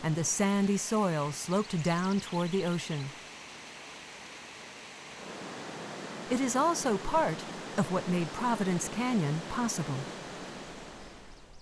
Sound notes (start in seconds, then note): 3.7 rushing Water